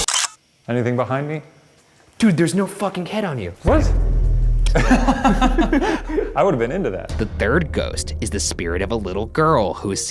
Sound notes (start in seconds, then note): 0.0 camera shutter clicks; 4.6 both laugh